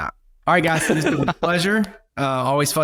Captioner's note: guests laugh